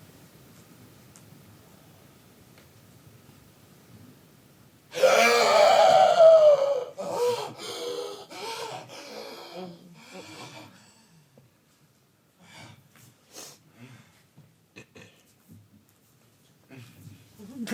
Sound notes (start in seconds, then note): 7.9 dancer shrieks